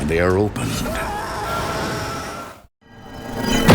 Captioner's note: boy screams